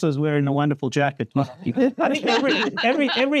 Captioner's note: laughing